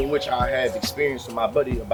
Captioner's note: birds Chirping